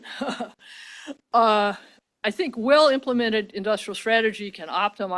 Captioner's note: laughs